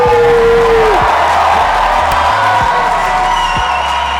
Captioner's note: audience cheers